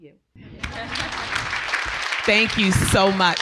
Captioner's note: audience clapping